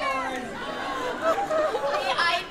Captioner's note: laughter